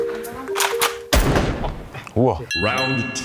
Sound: unnecessary gun sound.WAV

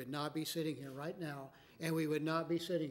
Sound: none

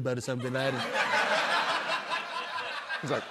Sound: laughter

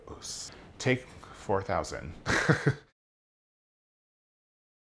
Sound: chuckles lightly

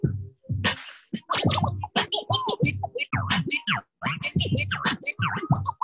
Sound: record scratching

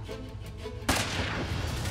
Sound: gun sound

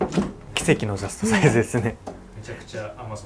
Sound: laughs

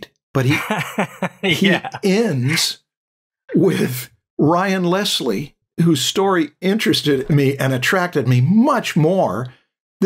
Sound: laughter

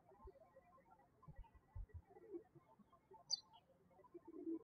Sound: birds chirping

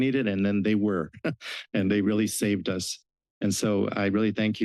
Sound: chuckling

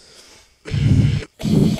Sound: clearing throat backwards & pitch shifted; clearing throat

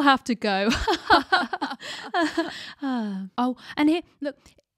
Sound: both laugh

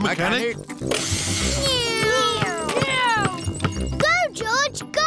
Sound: whirring

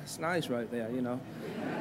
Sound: laughter

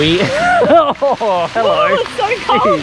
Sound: grunts and laughs

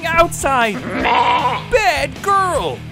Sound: bleating

